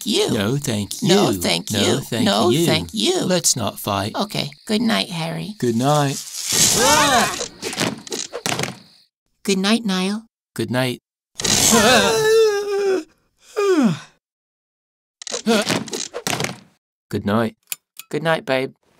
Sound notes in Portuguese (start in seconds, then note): 6.6 Ambos grito; 11.3 Yawns; 11.5 Gritos; 15.4 Niall yelps